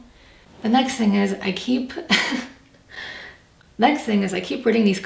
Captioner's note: laughs